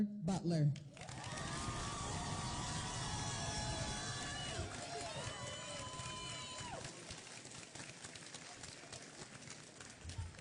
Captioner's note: applause and Cheering